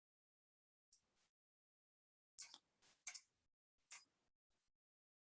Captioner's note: mouse clicking continues